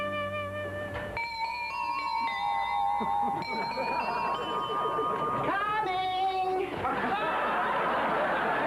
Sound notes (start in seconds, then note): 1.1 doorbell plays